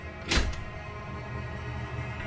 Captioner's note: door rattle